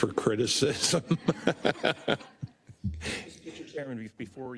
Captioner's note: laugh